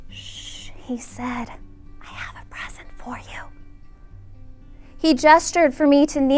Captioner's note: whispering